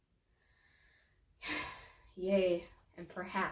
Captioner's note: sighs